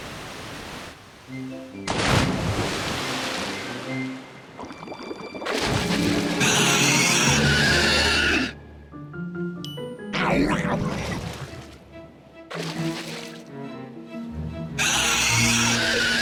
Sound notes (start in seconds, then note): 6.4 shrieking; 9.6 bell dings; 14.8 shrieking